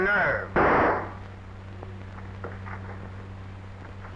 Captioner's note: gun firing